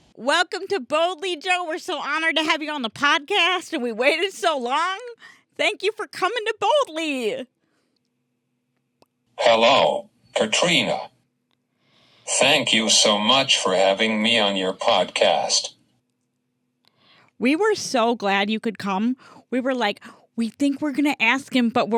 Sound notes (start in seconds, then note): 9.6 voiceover